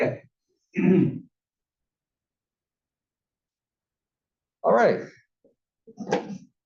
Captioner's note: cough